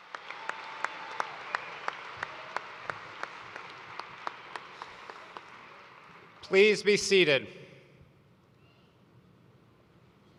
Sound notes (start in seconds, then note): 0.0 cheers and applause